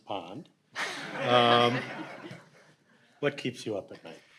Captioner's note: audience laughs